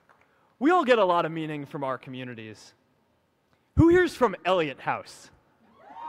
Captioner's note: applause